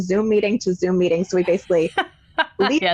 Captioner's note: laughing